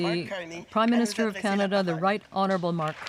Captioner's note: speaking French